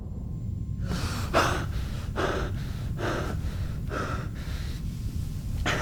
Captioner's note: Patient 119 breathing heavily